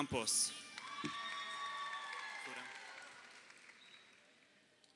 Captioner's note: crowd cheering